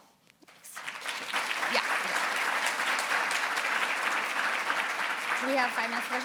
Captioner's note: audience applaud